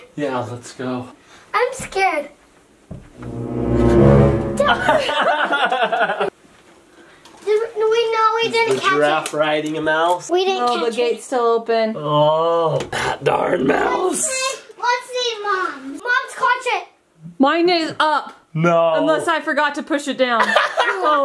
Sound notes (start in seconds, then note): 3.2 suspenseful music; 5.1 laughing